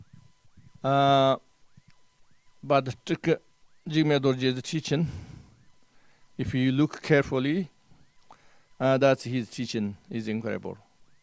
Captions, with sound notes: But [Tibetan], Jigme Dorje's teaching, if you look carefully, that his teaching is incredible.